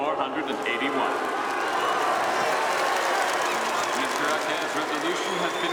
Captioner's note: all cheering and applauding